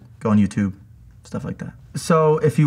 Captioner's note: none